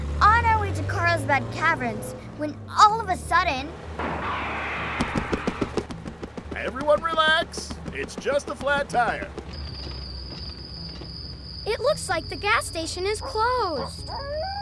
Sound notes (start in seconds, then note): 3.9 tire thumping